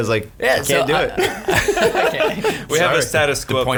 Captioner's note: laughing